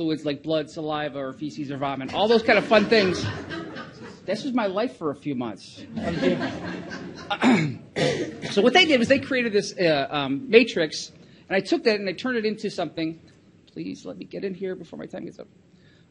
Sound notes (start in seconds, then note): 2.2 audience laughs; 5.8 audience chuckles